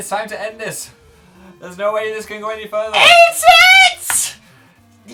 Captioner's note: screeches